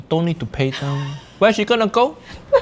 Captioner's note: laughing